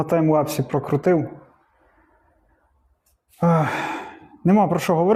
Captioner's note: sighs